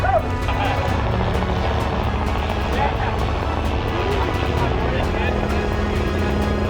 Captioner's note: helicopter blades whirring